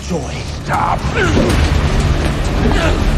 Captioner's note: grunting